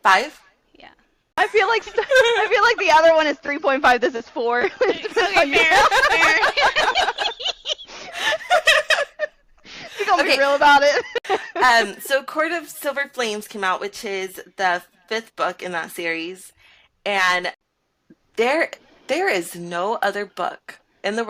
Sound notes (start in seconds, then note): 1.5 overlapping with laughter; 9.8 laughter